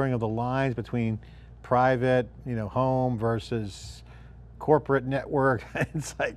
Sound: laughs

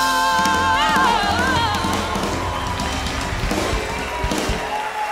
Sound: cheers and applause

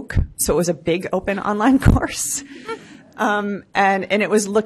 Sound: laughs

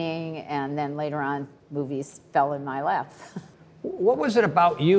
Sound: chuckles

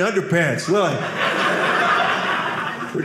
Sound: audience laughing

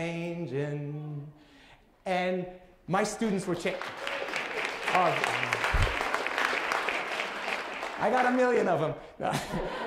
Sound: applause

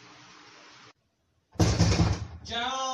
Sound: knocks on the door

